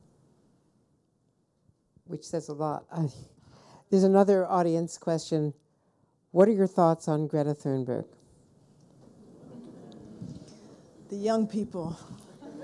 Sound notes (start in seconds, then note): 9.1 audience mumbles